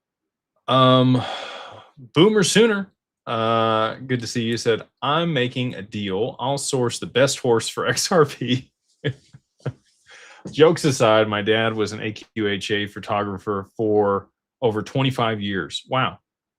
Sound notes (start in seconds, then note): 0.8 sighs